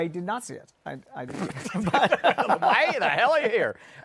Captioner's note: laughs